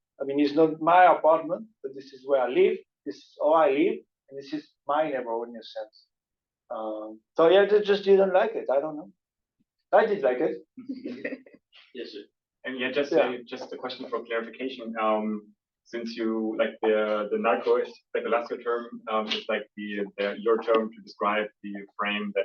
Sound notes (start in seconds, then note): 10.8 students laughing